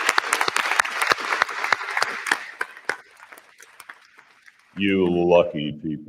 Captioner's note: applause